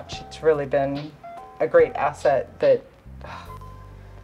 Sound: sighs

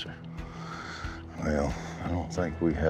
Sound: deep inhale

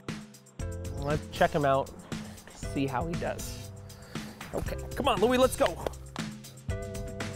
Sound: claps

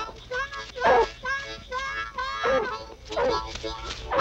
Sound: barking

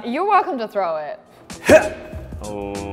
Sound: grunt

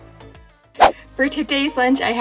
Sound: whoosh

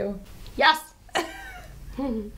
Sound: Rosa laughs

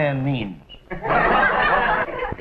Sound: laughter

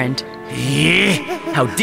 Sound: Ace groans

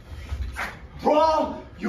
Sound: sword swish

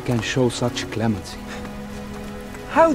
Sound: scoffs

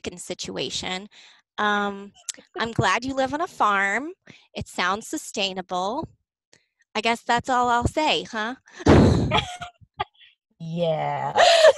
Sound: chuckles

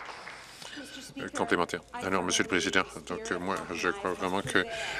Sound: applause

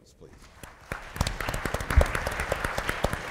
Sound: applause

